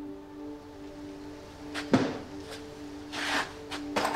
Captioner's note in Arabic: كركبة